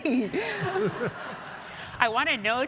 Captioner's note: audience laughs